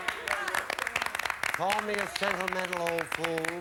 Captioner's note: audience applauding